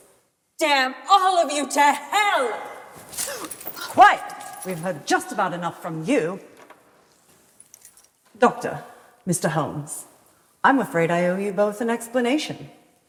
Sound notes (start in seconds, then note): none